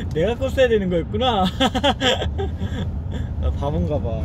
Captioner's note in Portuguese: Haha